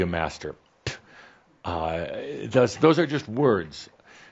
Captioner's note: spit!